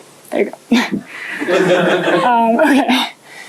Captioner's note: laughter